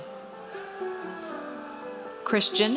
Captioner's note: audience cheers